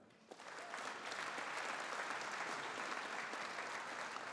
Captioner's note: audience applauding